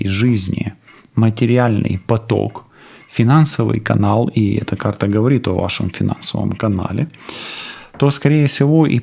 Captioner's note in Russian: фыркает